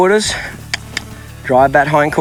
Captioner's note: mouth clicking